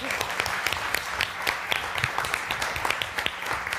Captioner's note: applause